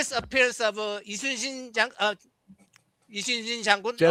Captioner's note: non-english speech